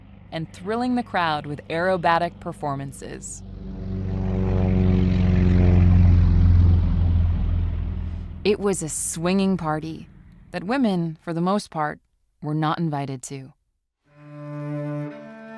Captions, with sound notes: and thrilling the crowd with aerobatic performances. [plane passing by] It was a swinging party that women for the most part were not invited to